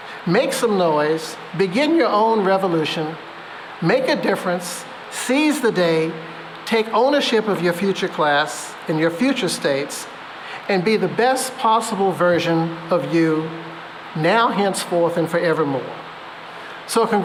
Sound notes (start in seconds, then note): none